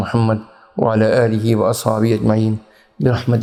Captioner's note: arabic